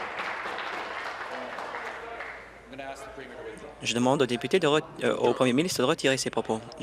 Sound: applause

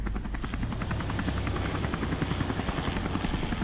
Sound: helicopter

